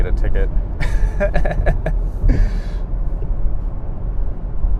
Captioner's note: man laughs